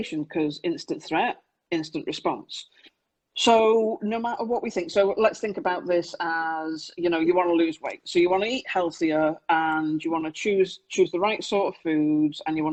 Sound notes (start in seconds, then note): none